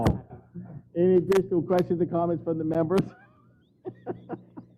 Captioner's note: laugh